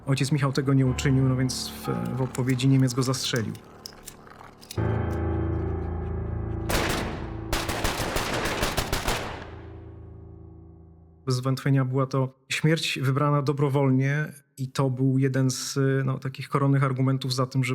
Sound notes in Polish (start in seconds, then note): 6.7 odgłosy strzałów